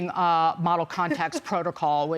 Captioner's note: laughter